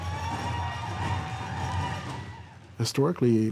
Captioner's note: cheering